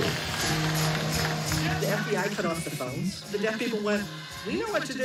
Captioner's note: crowd chanting